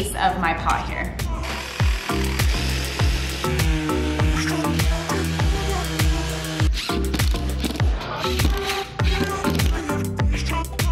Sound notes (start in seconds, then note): 1.4 lots of drill noises